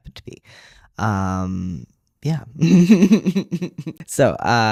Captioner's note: laugh